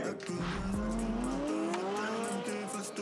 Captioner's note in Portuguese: motor acelerando